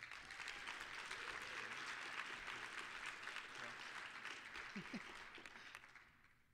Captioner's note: applause